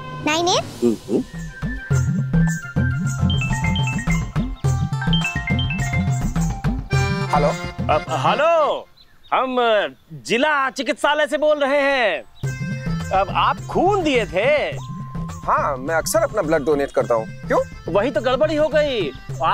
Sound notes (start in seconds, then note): 3.2 phone rings